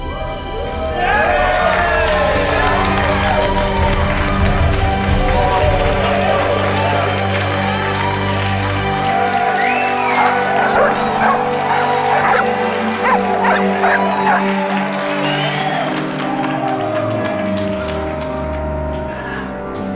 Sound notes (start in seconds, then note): 0.2 crowd cheers; 3.9 dramatic music; 8.0 crowd cheers; 9.4 dogs barking